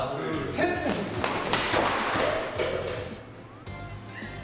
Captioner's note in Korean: 쿠당탕 넘어지는 소리